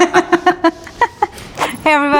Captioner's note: laughing